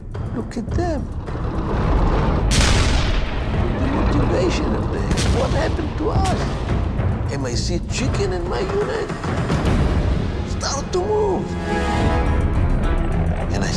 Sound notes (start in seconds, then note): 2.4 explosions booming; 12.0 suspenseful music